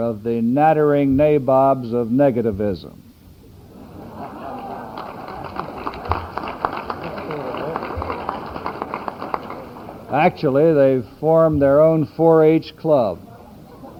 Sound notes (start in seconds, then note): 3.7 audience laughs; 4.2 applause